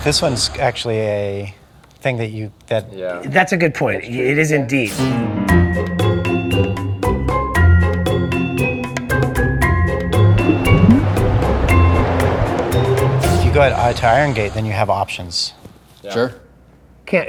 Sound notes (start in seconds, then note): 9.9 waves crashing; 10.3 water bubbling